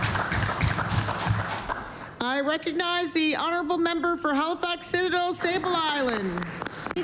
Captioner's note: applause